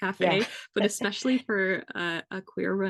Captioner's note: laugh